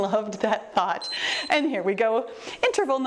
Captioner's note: timer beeps